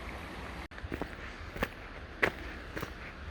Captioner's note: footsteps